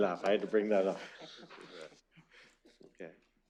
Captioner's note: laughter